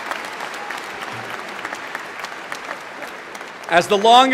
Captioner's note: applause